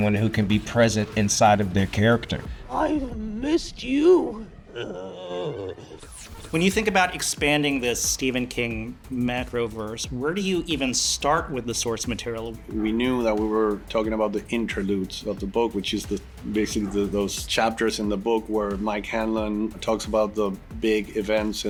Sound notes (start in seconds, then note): 2.8 groans